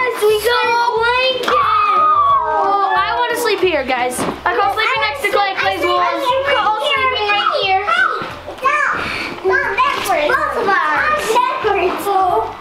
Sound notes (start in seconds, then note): 8.4 children talking over each other